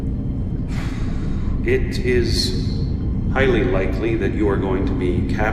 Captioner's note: sighs